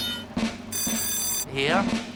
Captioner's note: timer buzzing; bells chiming